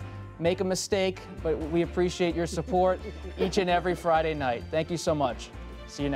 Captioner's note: laughter